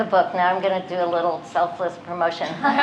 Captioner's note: laughter